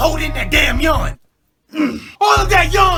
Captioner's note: gulp